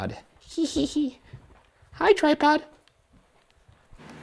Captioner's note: laughs